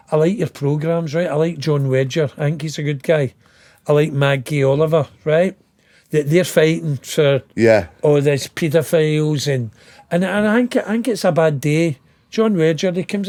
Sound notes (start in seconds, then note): none